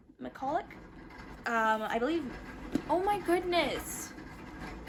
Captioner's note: hamster wheel sounds